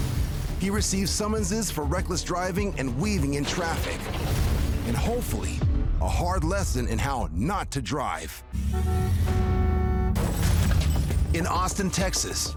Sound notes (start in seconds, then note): 8.2 glass shatters; 8.5 car horn honking